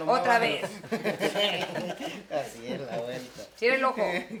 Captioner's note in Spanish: Risas